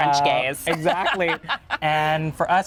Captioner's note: laughing